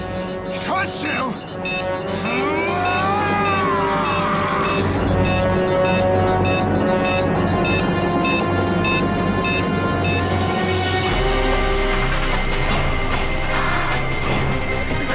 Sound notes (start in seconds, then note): 1.4 bomb beeping faster; 11.1 theme music playing